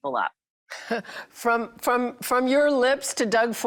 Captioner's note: laughing amusingly